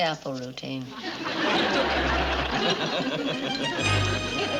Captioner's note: laughing